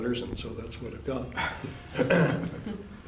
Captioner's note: laughter